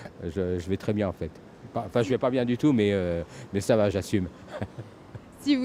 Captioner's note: laughs